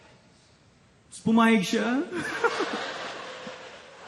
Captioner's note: giggles